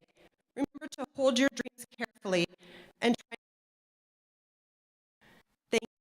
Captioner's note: audio cuts out